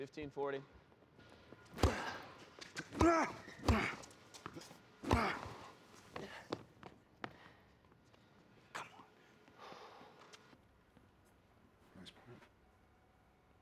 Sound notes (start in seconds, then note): 1.7 racket smacking; 3.0 Phillip grunting; 3.0 Marshall grunting; 6.2 Phillip gasping